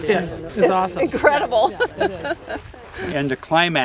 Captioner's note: laughing